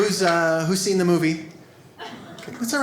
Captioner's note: audience laughs